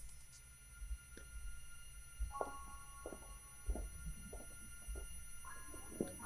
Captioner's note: soft music; ears ringing